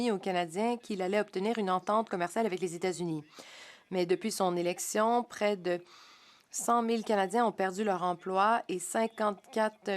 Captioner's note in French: voix de l'interprète